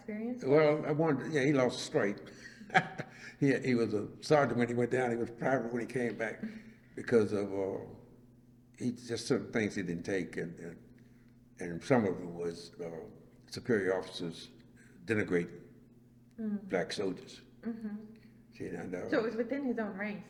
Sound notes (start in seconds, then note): 0.4 laughs